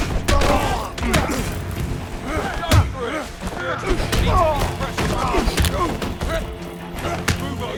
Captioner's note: groaning